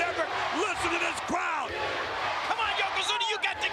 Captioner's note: spectators cheering